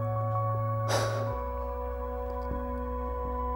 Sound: sigh

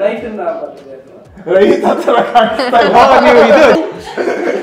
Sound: laughing

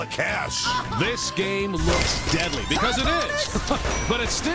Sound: laughs; rewinding tape

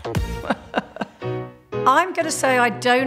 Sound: laughs

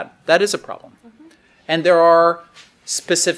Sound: none

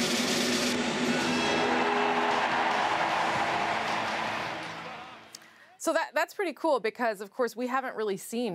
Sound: cheers and Applause

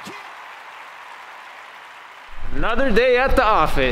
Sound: crowd cheering and applauding

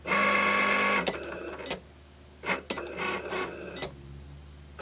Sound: Cricut draws

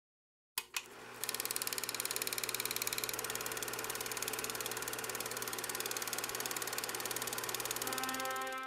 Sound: sound of movie projector

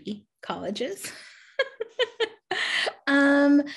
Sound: laughing

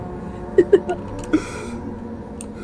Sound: laughs

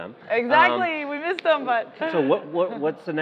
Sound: laughing

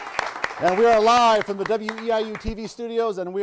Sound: applause

